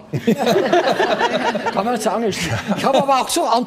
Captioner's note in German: Lachen